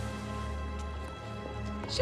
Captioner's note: footsteps approaching